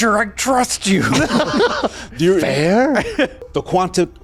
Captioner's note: laughing